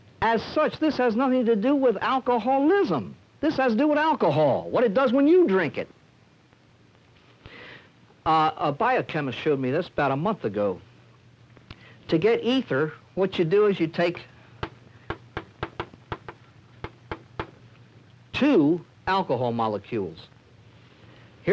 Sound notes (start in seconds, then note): 15.0 chalk tapping slate board